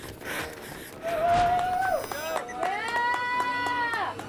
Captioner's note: all cheer